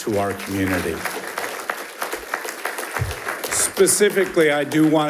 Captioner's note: attendees applauds